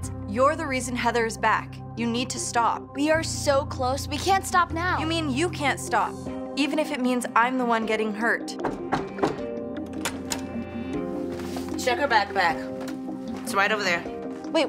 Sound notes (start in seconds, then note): 8.6 door knocking